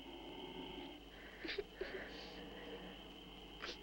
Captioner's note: both weeping softly